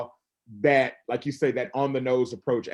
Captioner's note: none